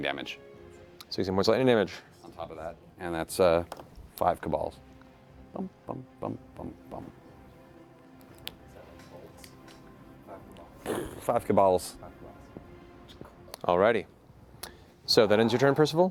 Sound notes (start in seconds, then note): 8.0 blast